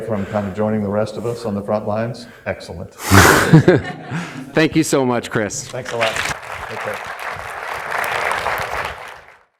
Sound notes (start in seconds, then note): 3.2 laughs; 3.4 audience laughs; 6.0 audience applauding